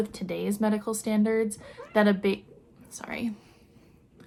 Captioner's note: cat meow